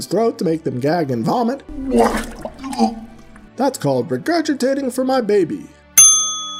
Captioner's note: ding